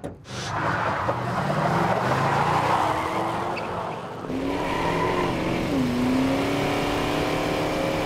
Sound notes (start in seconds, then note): 4.2 engine revving